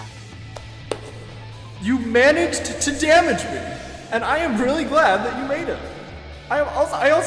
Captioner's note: claps